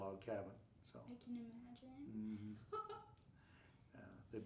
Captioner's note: laughing